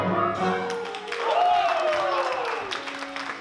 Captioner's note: applause